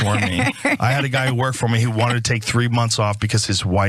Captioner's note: laugh